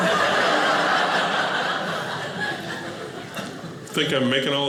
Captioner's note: audience laughing